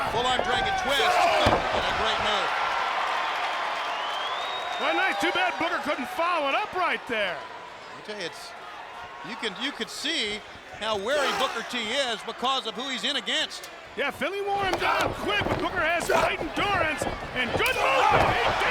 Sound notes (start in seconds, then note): 3.0 audience cheering